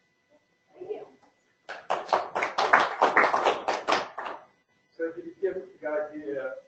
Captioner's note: applause